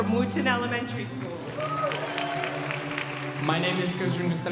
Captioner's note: audience applauding